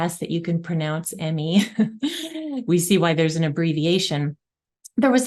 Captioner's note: chuckles